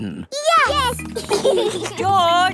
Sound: giggling

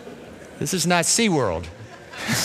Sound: laughter

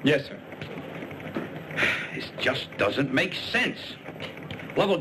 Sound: sighs

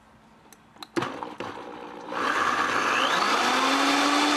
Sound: blender revving

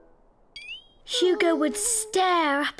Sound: Hugo whines

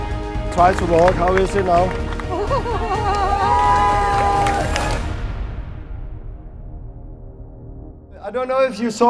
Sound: clapping

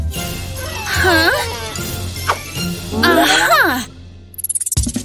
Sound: grunting

